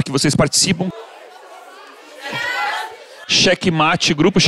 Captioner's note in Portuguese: plateia dá sugestões